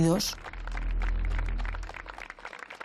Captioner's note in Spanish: Aplausos